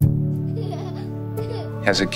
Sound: gentle music; child laughing

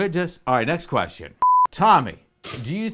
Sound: test card beeps

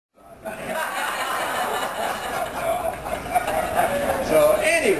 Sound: laughing

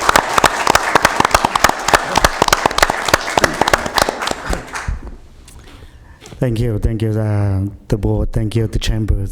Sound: applause

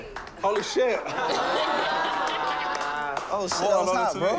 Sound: laughter

